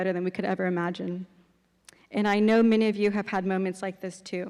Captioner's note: none